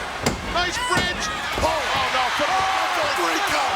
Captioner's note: announcer speaking faintly off mic; crowd cheering